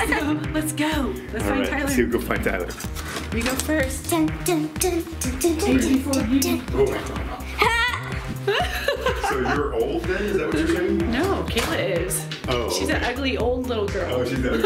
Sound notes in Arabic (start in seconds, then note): 8.8 يضحك